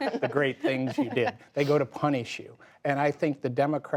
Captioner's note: laughter